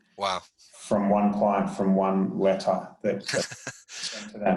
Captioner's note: murmurs